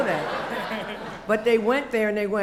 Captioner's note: laughter